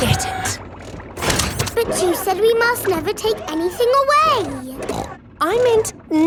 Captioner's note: snorts